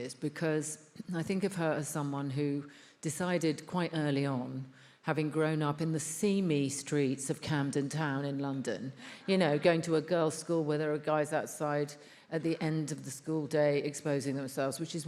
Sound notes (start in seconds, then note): none